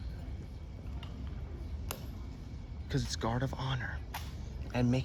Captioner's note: clicks feet and rifling